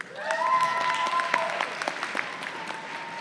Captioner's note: applause